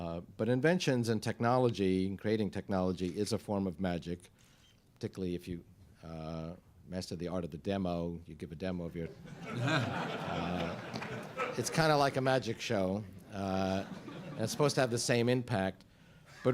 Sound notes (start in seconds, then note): 9.1 laughter